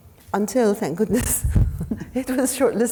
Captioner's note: laughs